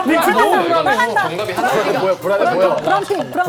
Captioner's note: cheering at the exciting series of events